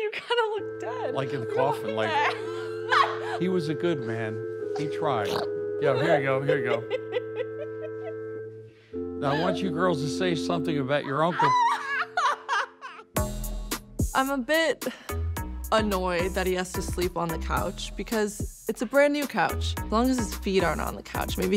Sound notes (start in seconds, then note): 1.8 chuckles; 11.8 howls